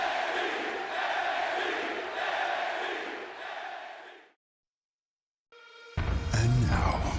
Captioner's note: crowd chanting, "nxt"